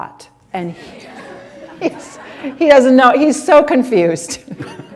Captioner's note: laughter